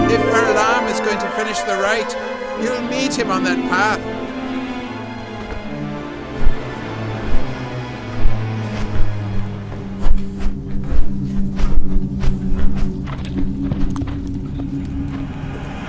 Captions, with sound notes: If Varlahm is going to finish the rite, you'll meet him on that path. (eerie music) (wings flap)